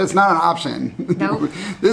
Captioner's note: laughs